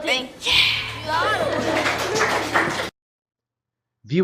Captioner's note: students laughing & clapping